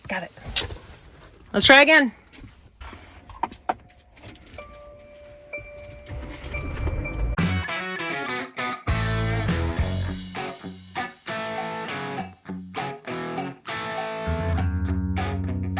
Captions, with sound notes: Got it. Let's try again. (dinging) (upbeat rock music)